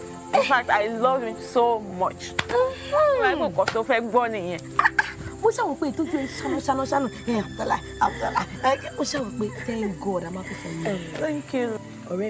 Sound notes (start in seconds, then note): 3.5 Tife speaking in foreign language; 5.2 woman speaking in foreign language